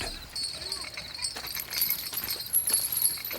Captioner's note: chain rattles